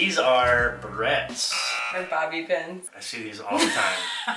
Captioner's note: buzzer